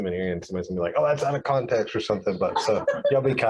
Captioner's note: crowd laughs